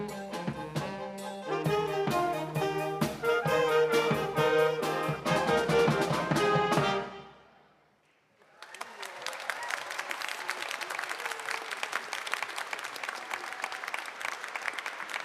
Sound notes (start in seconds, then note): 8.4 audience applauding